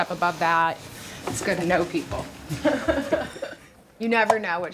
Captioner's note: laughs